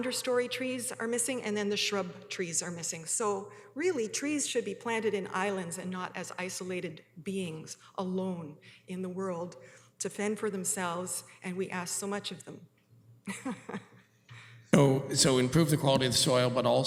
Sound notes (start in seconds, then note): 13.2 chuckles